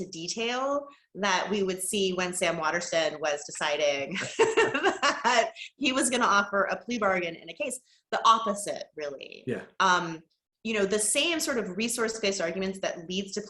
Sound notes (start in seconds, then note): 4.2 laugh